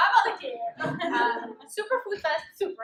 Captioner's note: laughter